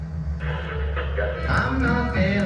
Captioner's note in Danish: radio knitrende